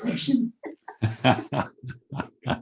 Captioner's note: laughs